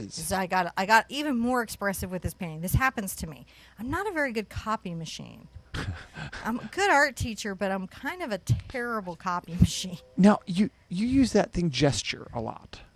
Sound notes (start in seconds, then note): 5.6 chuckles